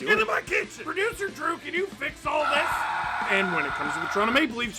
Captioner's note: screaming